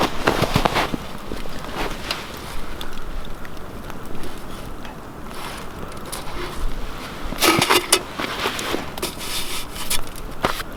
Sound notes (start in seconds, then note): 0.9 snow crunching